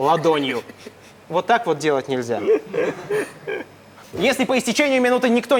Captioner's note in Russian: смех Поперечного